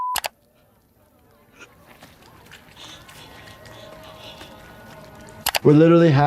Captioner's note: Peter breathes heavily